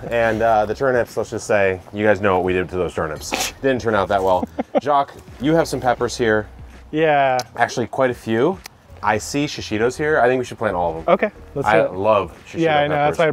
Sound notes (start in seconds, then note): 4.1 chuckles